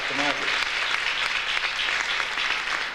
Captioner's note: audience applauds